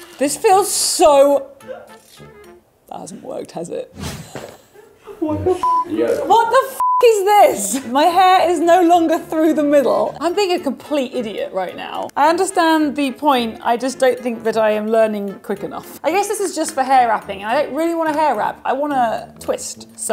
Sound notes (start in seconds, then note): 5.6 beeps